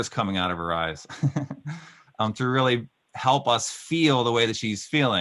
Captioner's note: laughing